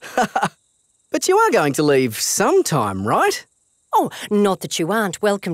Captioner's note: laughs